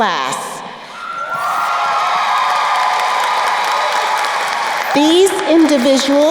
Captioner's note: crowd cheering and applauding